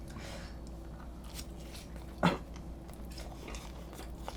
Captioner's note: coughing that won't go away 😆